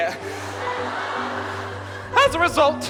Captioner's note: audience laughter